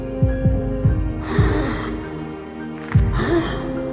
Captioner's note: heart beats faster; Luigi gasps; cracking sound, another gasp